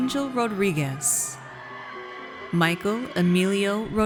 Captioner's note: audience cheers